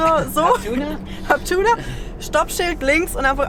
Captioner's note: laughter